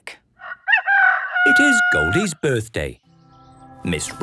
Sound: rooster crowing

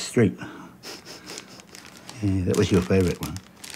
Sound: chuckles softly

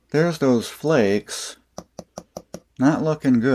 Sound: tapping sound

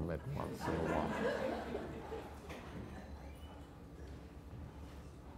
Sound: audience laughter

